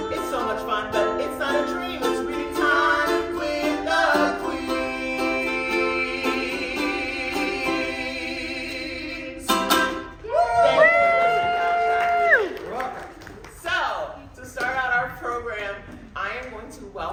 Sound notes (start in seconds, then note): 11.0 applause